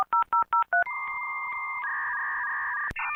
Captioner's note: 90s dial-up sounds